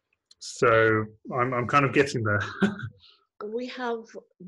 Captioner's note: laughs